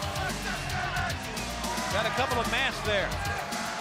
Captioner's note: crowd chatter